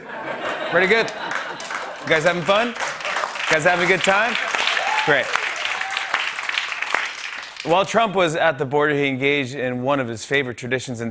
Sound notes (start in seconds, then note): 0.0 laughter and applause; 4.2 cheers and applause; 6.1 applause